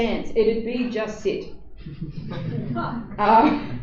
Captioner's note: laughter